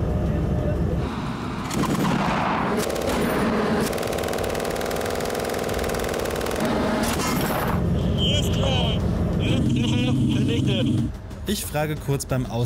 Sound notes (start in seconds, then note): 1.6 gunshots